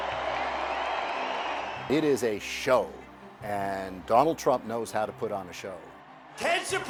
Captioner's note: crowd cheering